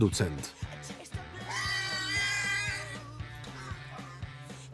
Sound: pig squealing loudly

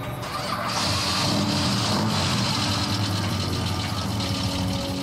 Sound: car engine revving

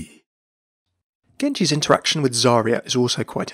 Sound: voiceover

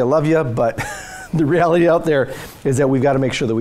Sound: laughs

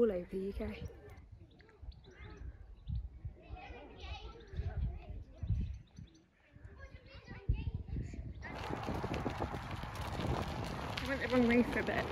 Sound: sounds of children talking and laughing

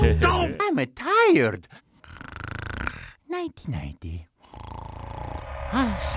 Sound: snoring

